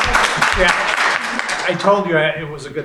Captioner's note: laughing; applause